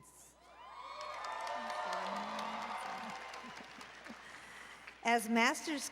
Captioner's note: applause and Cheering